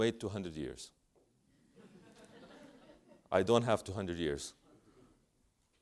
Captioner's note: laugh